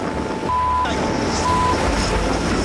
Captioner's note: beep